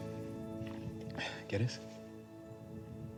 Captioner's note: spanish